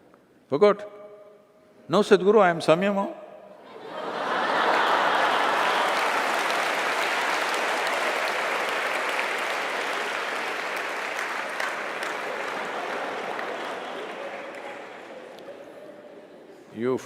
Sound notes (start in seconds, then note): 3.6 Laughter/Applause